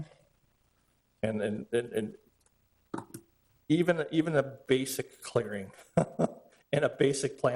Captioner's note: laughs